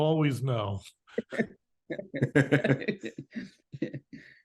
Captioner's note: both laugh